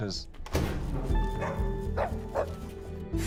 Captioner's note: door opening